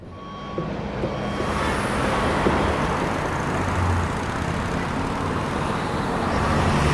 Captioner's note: car engine revving; car whooshing